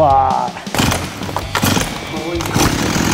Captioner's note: circular saw